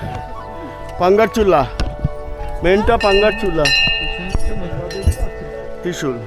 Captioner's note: bell; bell